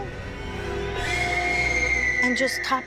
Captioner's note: scream